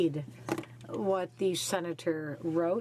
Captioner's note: speaking French